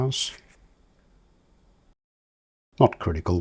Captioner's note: silence